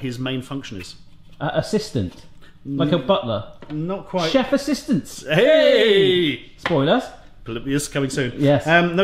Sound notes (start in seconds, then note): 5.2 both exclaim